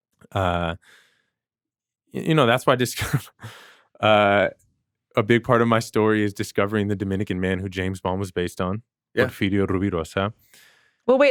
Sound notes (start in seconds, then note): 2.5 chuckles